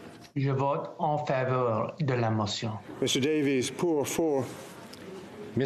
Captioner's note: speaking FRENCH